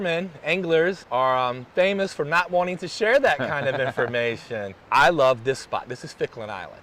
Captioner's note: laughs